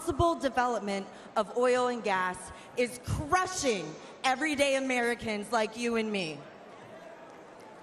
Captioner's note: crowd booing